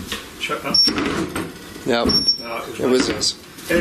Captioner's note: beeping